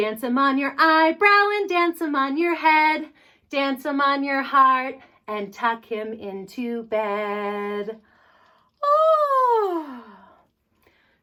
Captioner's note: yawn